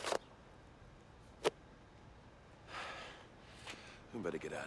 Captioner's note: sighs